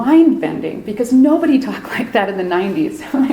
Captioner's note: chuckles